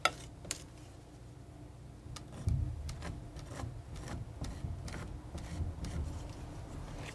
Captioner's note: tapping